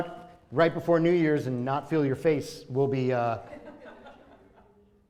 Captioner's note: laughter